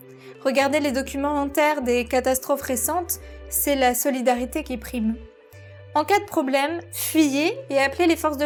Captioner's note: french